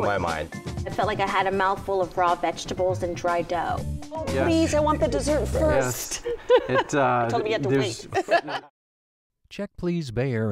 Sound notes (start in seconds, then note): 6.0 laughs